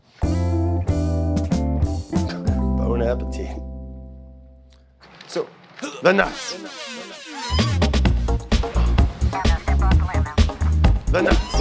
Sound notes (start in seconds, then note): 0.3 guitar music playing; 6.3 screams; 8.2 upbeat music playing